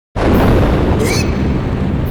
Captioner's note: panicked gasp